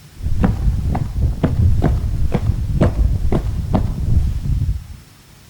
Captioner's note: footsteps